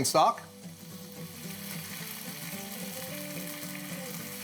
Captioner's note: stock sizzling